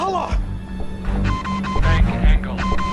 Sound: beeping

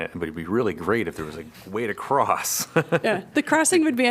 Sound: laughter

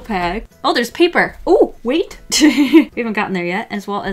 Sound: laughs

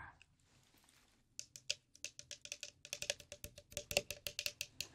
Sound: taps bottle

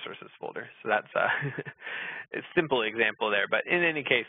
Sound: laughs

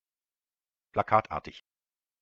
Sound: fast Pronunciation

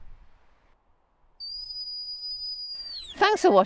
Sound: "Stop" whistle command

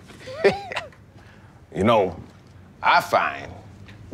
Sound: janitor chuckles

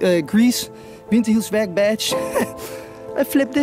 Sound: laughs

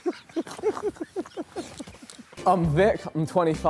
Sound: all laughing

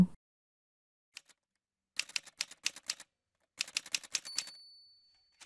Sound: typewriter sounds

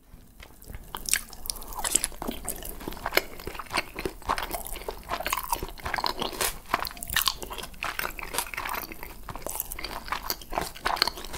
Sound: asmr eating

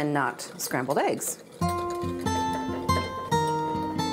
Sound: whisk taps against bowl

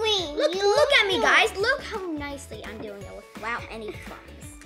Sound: none

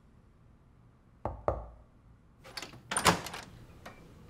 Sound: knocking

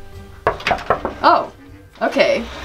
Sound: knocking

